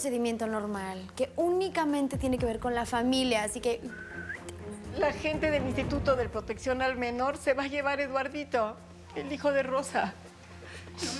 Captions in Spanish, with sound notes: PROCEDIMIENTO NORMAL, QUE ÚNICAMENTE TIENE QUE VER CON LA FAMILIA. ASÍ QUE... [Silbido] >>LA GENTE DEL INSTITUTO DE PROTECCIÓN AL MENOR SE LLEVA A EDUARDITO, EL HIJO DE ROSA.